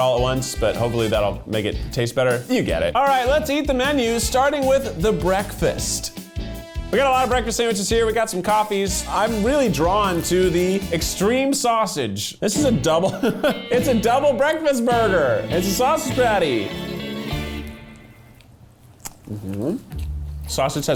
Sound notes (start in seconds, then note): 13.0 laughing; 19.1 humming; 19.9 slow music